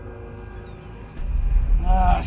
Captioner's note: gulls squawking